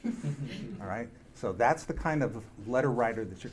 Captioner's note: audience laughing